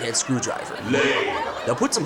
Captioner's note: deep Voice